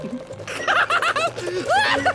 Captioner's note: laughing